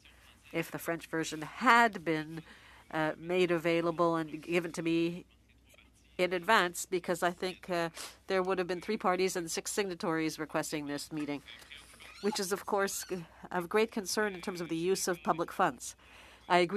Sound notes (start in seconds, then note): 1.8 speaking French